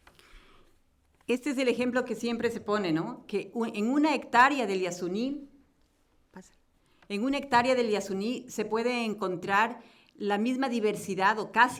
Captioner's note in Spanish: Español